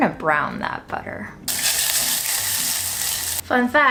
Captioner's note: butter sizzling